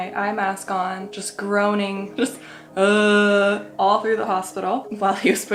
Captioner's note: groans